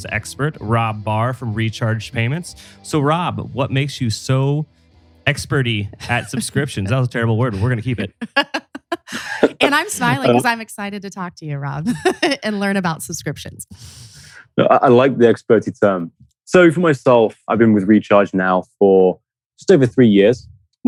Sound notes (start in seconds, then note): 9.3 laughs